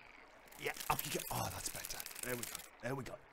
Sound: creepy crawly noises

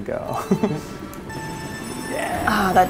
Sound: chuckles; beeps

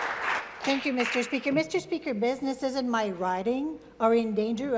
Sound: applause

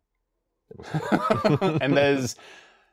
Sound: laughing

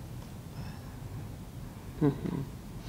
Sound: whispering

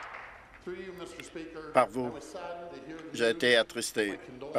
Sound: applause

